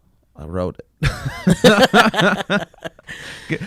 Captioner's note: laughs